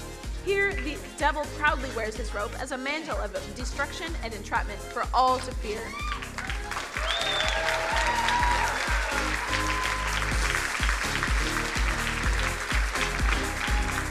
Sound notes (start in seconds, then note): 5.8 crowd cheering and applauding; 10.5 upbeat electronic music